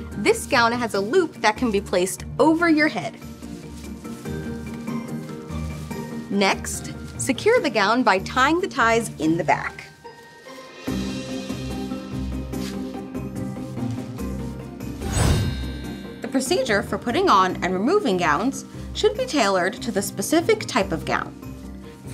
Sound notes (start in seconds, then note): 11.0 calm music continues; 14.9 gown twinkles